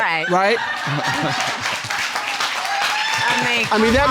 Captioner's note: audience laughing and applauding